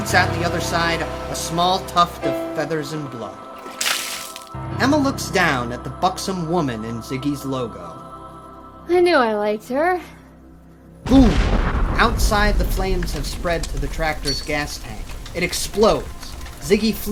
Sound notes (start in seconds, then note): 3.6 blood spattering; 11.0 gas tank exploding